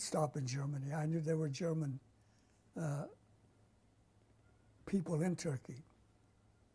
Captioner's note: pauses for 3 seconds